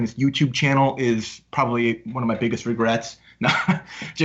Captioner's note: laughs